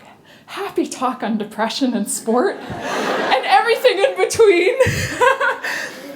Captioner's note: laughter